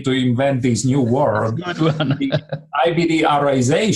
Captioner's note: laughs